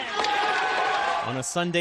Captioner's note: cheering